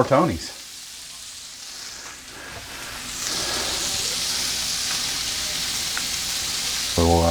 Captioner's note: sizzling sound in background